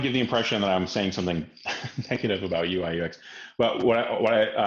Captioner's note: laughs